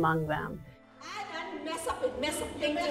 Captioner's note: speaking foreign language